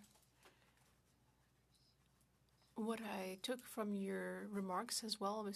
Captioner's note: speaking French